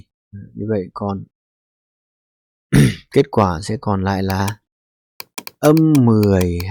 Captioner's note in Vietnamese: hắng giọng